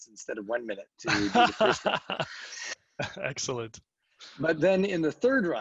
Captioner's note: laughs